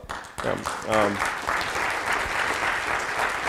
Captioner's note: applause